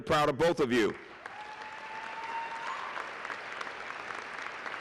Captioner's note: applause